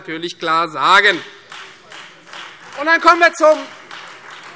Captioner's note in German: Beifall Freie Demokraten